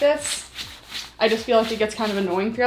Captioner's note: rubbing pants